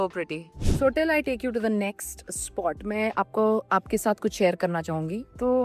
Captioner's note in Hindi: नाक से की जाने वाली आवाज़